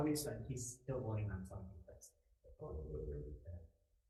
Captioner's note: faintly speaks